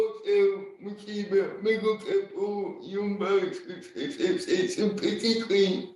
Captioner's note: laughing